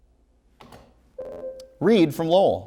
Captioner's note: ringing